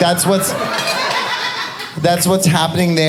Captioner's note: audience laughing